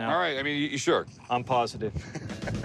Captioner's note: laughs